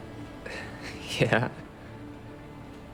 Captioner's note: laughing